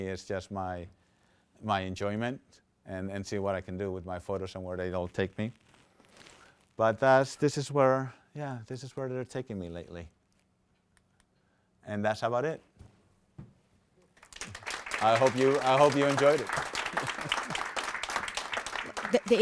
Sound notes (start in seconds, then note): 14.2 applause